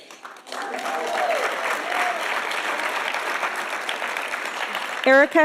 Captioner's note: audience applauding and cheering